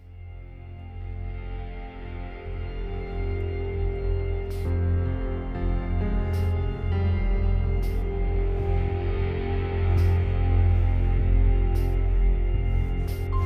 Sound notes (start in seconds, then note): 0.3 ominous music; 4.7 machine pumping